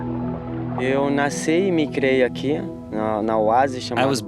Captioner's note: Brazilian spoken audio